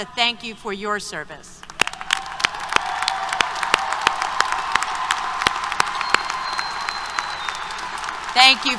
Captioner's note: applause, Cheers